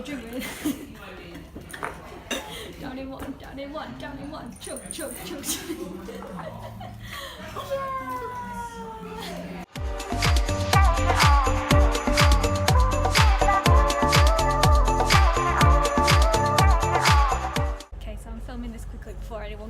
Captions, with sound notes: drink with Izzy... down in one, chug chug chug! [laughter]